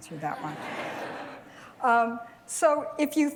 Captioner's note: laughter